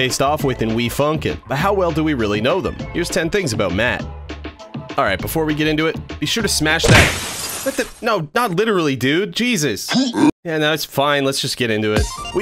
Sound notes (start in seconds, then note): 6.8 crash